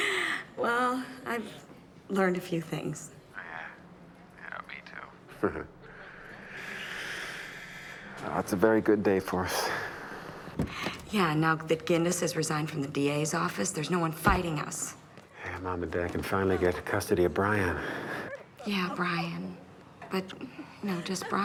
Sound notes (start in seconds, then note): 5.4 chuckles